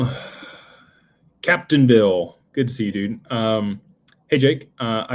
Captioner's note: sighs